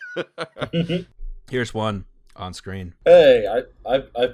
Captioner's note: laughter